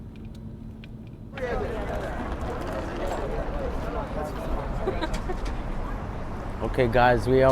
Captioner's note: street noise